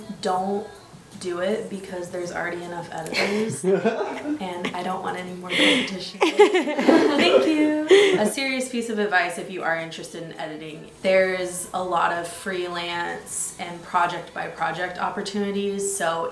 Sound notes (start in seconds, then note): 3.1 laughter